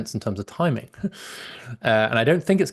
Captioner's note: laughs